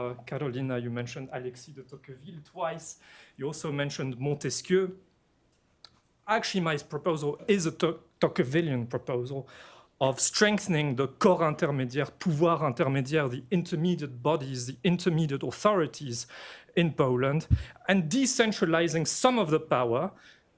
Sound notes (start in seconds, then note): 12.7 french